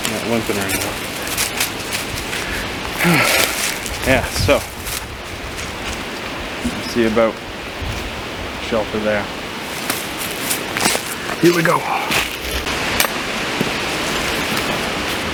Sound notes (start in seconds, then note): 3.0 sigh